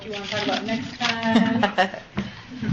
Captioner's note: laughs